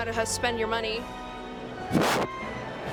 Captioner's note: violently blows into mic